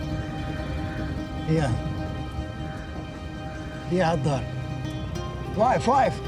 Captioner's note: speaks arabic